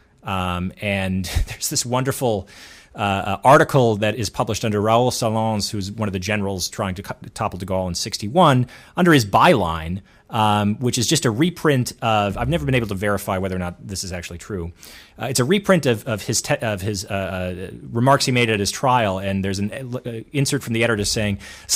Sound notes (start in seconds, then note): 5.0 speaks foreign language